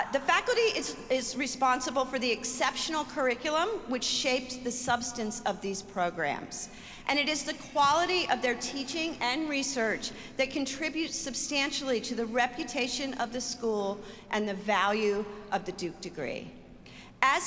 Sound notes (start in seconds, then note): none